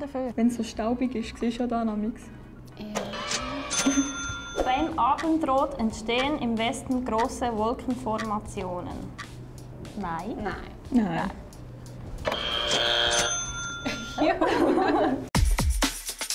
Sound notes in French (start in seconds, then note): 2.9 Buzzer; 12.2 Buzzer; 15.3 Musique hip-hop